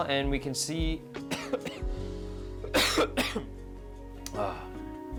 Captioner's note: cough cough